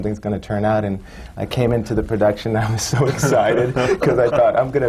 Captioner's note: laughs